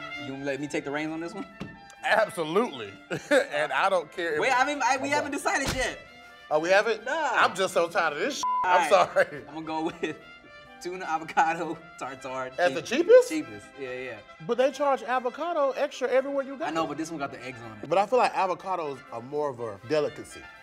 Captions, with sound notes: - You'll let me take the reigns on this one? - Absolutely. And I don't care. Wait, we haven't decided yet. - Oh, we haven't? - No. - I'm just so tired of this (beep) I'm sorry. - I'm gonna go with tuna avocado tartare. - As the cheapest? - Cheapest, yeah, yeah. - But they charge avocado extra everywhere you go. - I know, but this one got the eggs on it. - But thought that avocados are more of a delicacy.